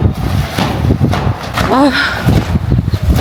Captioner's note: sigh